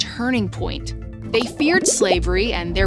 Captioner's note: graphics bubbling